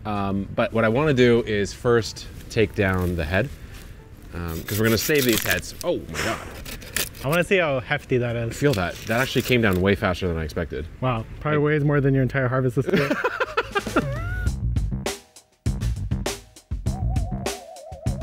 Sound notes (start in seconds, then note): 4.6 knife slicing; 12.8 laughs; 12.9 funky music